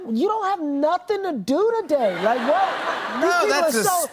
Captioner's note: laughter